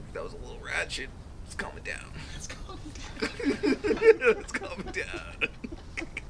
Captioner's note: laughing